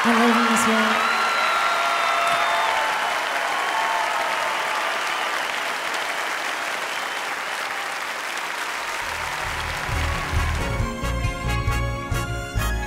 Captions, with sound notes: I love you, Mrs. Warwick. [audience cheers] [dramatic music]